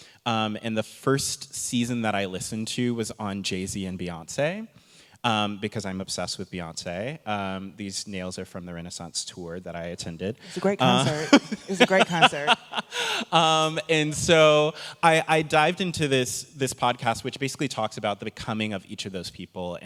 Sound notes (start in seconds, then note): 10.6 laughing